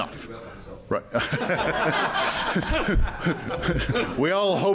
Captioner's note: laughter